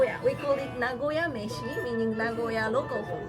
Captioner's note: speaks Japanese